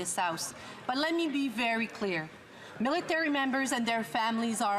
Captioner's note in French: voix de l'interprète